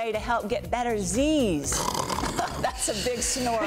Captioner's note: snoring; laughs